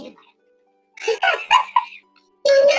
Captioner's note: laughs